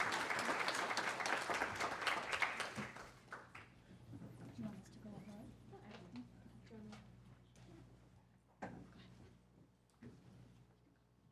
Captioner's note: applause